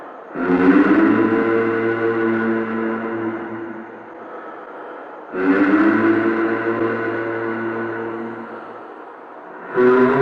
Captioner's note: humming sound